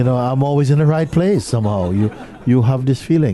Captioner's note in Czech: smích